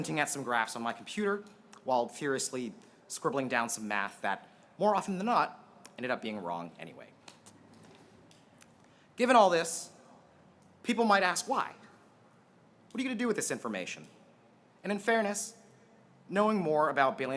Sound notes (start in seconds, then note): none